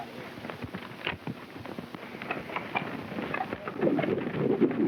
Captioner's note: hooves clopping